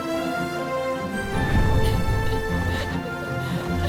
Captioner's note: laughing